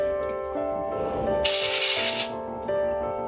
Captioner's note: air compressor hisses